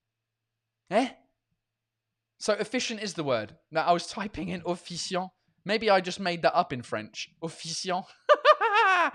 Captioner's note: laughs